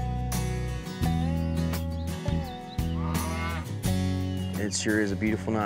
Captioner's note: birds chirping; cow moos